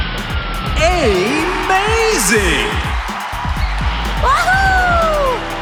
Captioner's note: cheering